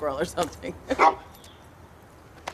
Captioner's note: bark